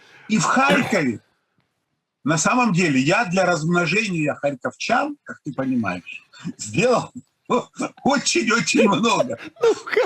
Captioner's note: both laughing